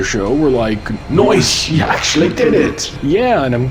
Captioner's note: in vaguely Scottish Alien Voice